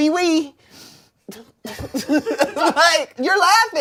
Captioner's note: everyone laughs